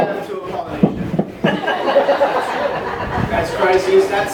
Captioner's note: laughs